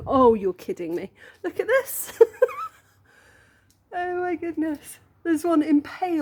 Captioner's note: laughing